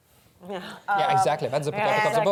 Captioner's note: laughs